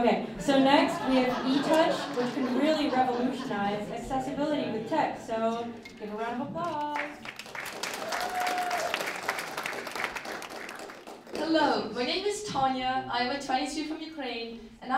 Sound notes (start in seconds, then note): 0.6 laughter; 6.6 applause